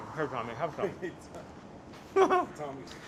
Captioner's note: laughing